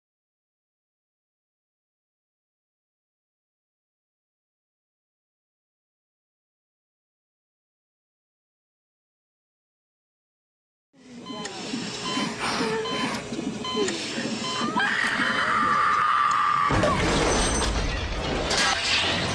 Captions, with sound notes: (Woman screams) Glass smashes